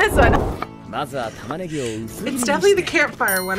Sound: character speaking in a foreign language

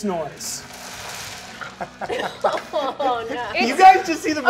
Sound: so many dice rattling; all laugh

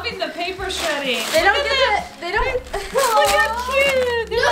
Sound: paper shredding

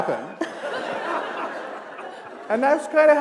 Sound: laughter

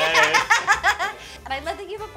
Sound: laughter

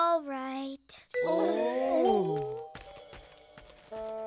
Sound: Beast sighing

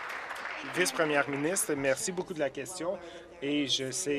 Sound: applause

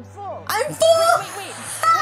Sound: laughs

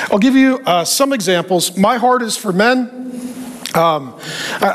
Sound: none

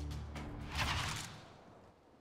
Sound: loading rifle

